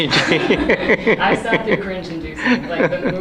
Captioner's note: laughs